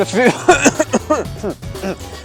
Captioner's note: heavy cough